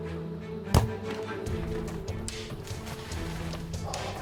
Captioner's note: bowstring thuds